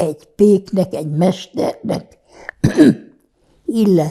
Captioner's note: clears throat